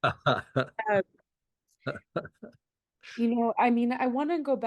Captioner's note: laughs